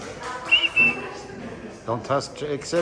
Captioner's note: person whistling